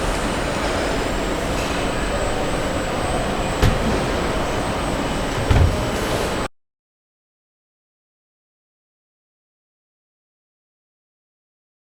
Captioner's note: machines whirring